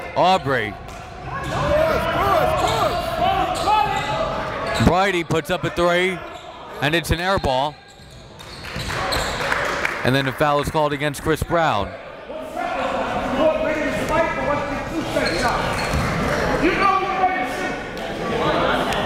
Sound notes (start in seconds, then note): 9.4 applauding; 12.3 referees and coaches yelling